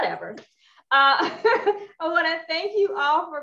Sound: laughs

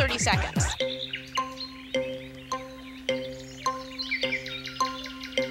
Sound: <i> clock ticking</i>

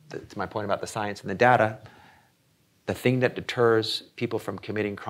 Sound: none

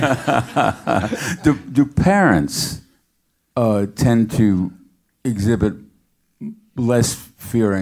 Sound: laugh

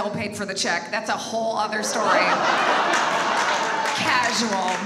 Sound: audience laughs and applauds

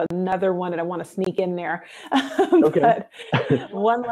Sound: laughs

